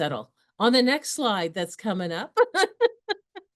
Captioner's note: laughs